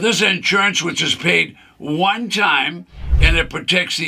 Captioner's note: screen whooshes